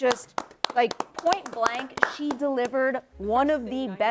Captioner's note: clapping